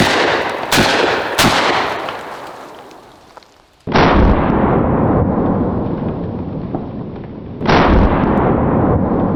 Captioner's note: gunshots